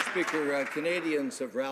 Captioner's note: some Applause